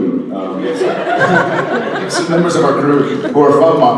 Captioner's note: audience laughs